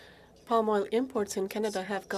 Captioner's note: speaking French